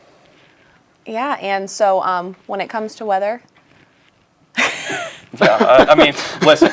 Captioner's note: laughs